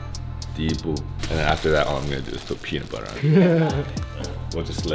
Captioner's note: Laughs